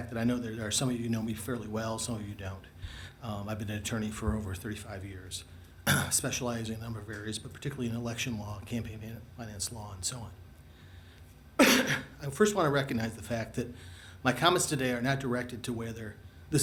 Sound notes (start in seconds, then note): 5.8 clears throat; 11.6 coughs